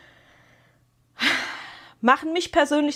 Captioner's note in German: japst; seufzt